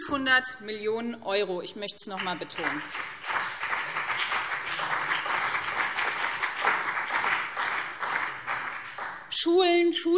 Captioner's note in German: Beifall BÜNDNIS 90/DIE GRÜNEN und CDU